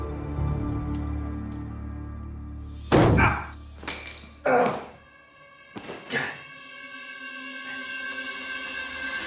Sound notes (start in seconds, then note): 3.8 tool clatters; 4.4 ominous music